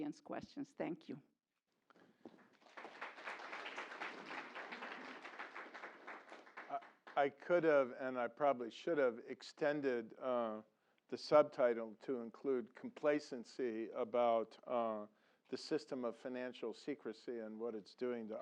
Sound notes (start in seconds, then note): 2.1 applause